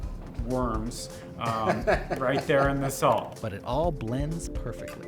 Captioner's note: laughing